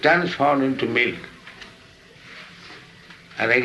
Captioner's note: none